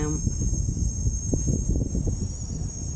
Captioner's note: stong wind blowing